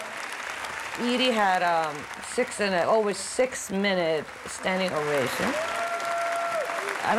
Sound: applause and cheering

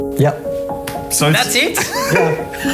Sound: laughing

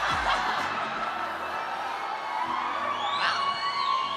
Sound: audience cheering

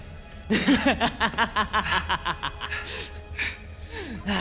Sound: inauspicious laughter

